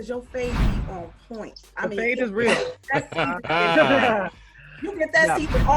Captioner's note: laughs